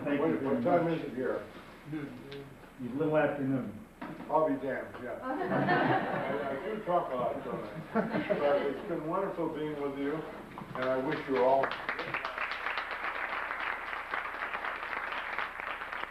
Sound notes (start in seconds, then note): 3.4 male Voice; 5.3 audience laughs; 13.0 audience applauds